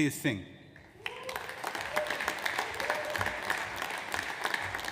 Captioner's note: audience applauds